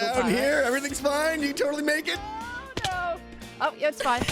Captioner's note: thunk